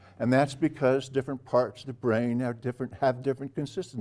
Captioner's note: none